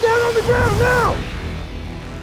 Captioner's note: voiceover